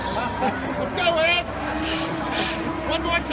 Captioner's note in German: Voice-over